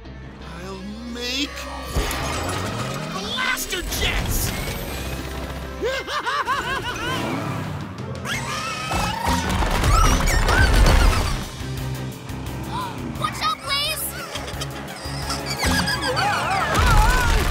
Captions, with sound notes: I'll make... blaster jets! [evil laugh] Watch out Blaze! Whoa!